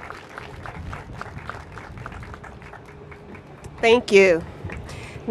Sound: applause

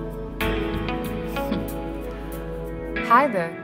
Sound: scoffs

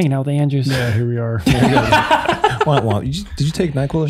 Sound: all laughing

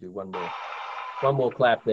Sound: crowd applauds

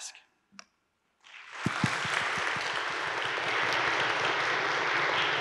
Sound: audience applauding

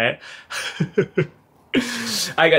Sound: laughs

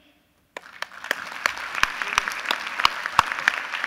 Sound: applause

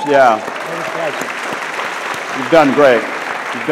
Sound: audience laughs

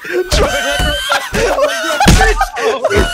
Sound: laughter intensifies

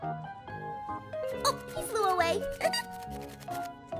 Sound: laughs

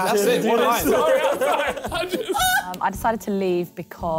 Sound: chattering

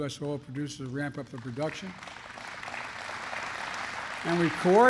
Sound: applause

